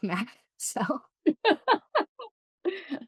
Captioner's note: laughs